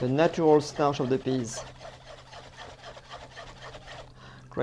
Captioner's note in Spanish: sonido batiendo